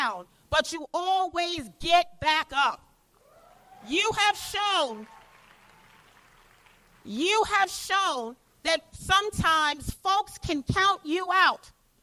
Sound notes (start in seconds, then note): 4.1 applause